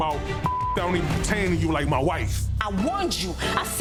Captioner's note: beep